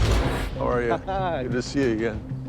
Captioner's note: laughs